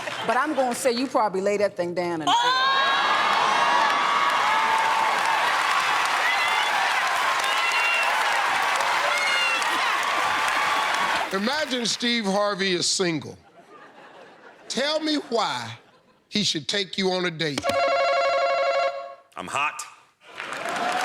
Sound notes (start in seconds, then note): 4.5 cheers and applause